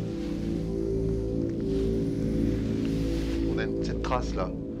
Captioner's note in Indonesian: suara langkah kaki